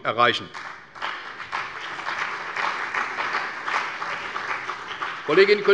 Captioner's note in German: Beifall bei der CDU und dem BÜNDNIS 90/DIE GRÜNEN